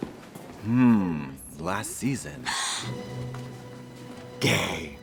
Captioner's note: Elle gasps